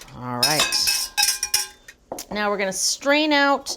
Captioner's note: spoon clanging